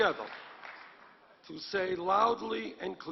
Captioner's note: applause